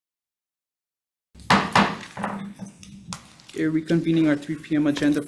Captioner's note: gavel thuds